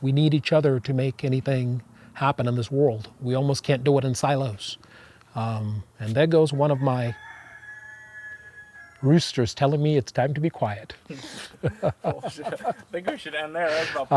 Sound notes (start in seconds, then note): 6.5 rooster crows; 11.0 laughs